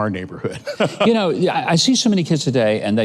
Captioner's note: laughing